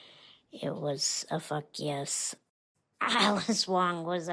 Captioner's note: laughs